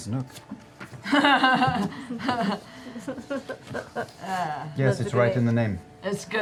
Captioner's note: laughter